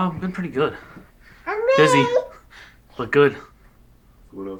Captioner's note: baby Babbling